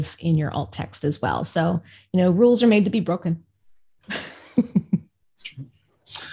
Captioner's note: laughs